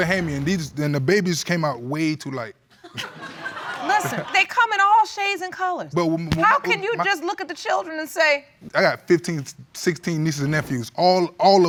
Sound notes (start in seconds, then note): 2.9 audience laughing; 5.3 stuttering